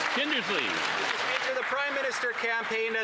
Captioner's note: some Applause